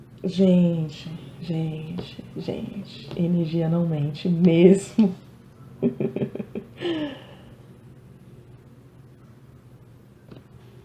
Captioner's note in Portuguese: risadas